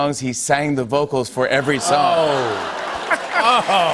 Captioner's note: audience groans